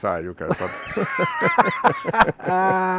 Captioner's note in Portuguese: risos